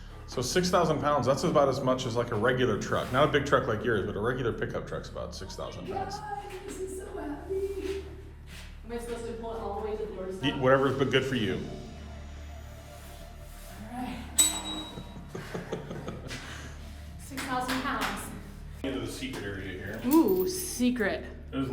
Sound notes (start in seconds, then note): 14.4 bell dings; 15.1 chuckles